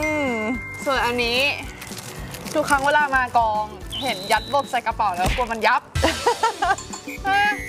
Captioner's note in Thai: เสียงหัวเราะ